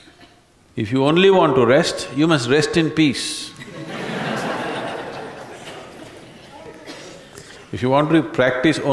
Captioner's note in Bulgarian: Смях